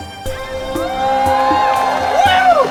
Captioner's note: audience cheering